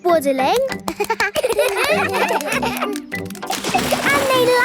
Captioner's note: children laugh